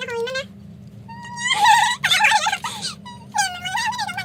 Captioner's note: animal noises cuz this part was speed up